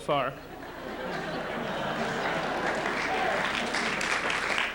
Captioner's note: laughter